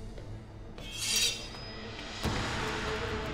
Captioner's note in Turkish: Kılıç çekme sesi